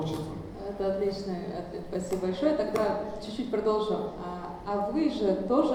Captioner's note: speaking in foreign language